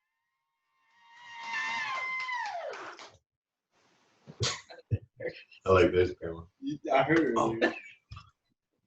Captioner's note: cheering